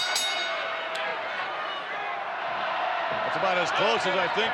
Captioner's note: bell rings